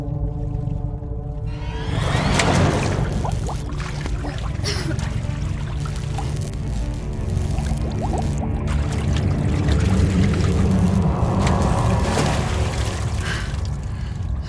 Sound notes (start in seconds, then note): 1.8 water gurgling; 5.8 lights buzzing; 13.1 Amber breathing hard; 13.5 dark, menacing music